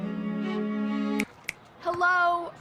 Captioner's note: snaps